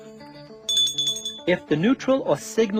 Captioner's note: ringing